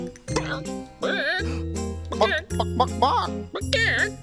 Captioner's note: chickens clucking